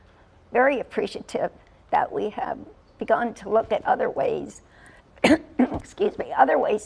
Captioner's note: cough